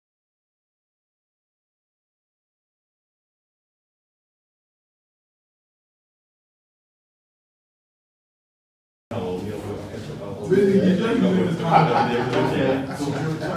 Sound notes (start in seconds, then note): 9.1 people chattering